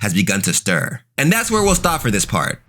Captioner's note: smoke whooshing